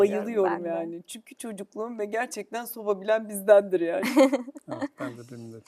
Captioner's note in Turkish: kahkaha